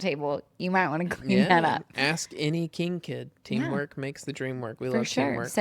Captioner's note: laughs